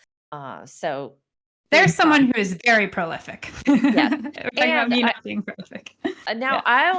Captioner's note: laughing